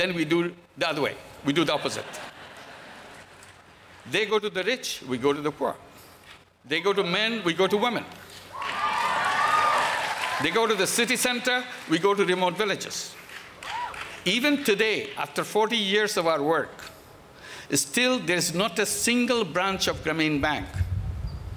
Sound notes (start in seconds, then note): 1.6 laughter; 8.5 applause